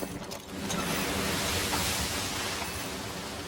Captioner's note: waves roaring